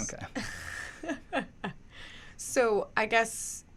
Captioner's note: laughs